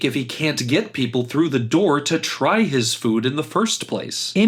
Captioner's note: none